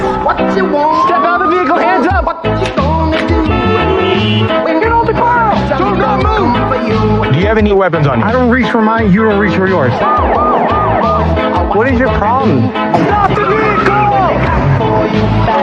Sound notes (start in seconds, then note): 2.8 siningiging; 9.8 siriren w wailing; 14.5 singigingng